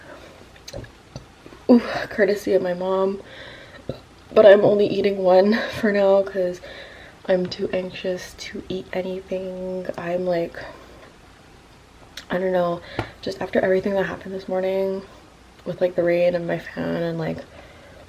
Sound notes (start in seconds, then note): 0.1 burps; 3.4 burps